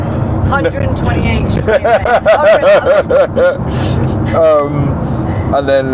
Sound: laughing

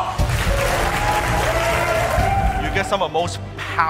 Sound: audience applauds

